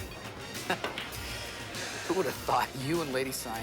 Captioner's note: Smitty chuckles